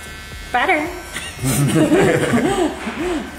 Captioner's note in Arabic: يضحك